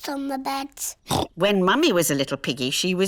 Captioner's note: oinks